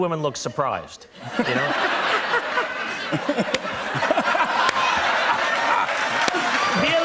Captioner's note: laughter, cheers and applause